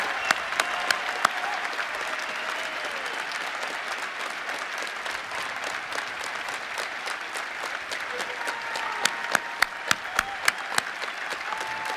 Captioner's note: cheering and applause